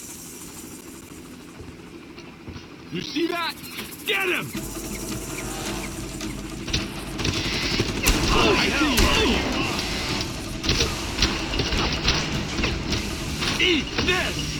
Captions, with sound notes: You see that? Get him! (gun fires) (yells) Eat this!